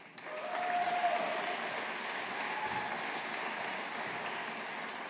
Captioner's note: audience applauding